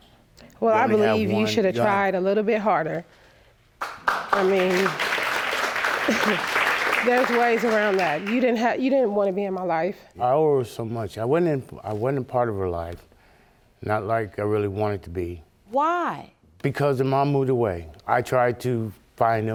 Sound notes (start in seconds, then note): 3.8 audience applauding; 5.7 scoffs